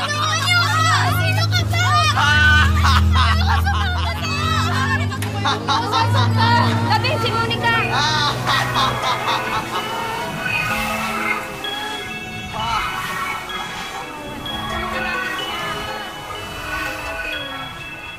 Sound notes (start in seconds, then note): 2.3 laughs; 4.8 crowd panicking; 8.4 laughs; 12.3 laughs